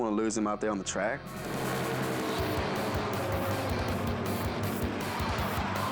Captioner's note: energetic music; engines roar; tires screech